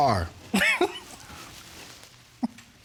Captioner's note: chuckles